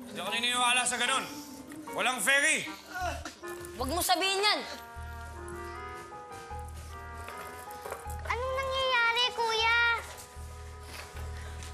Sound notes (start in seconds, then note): 2.9 Shadow groans